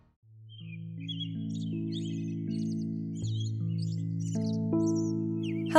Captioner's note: forest Birds Singing